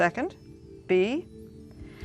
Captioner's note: beeping